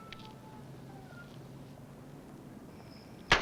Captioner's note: gunshots